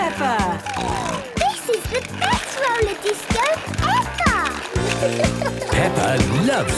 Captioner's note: snorting